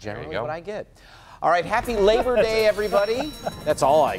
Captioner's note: laughter